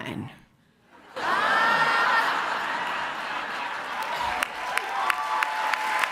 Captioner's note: laughter and cheering